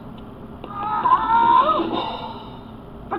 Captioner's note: Grover screaming